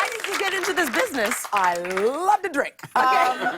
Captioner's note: laughter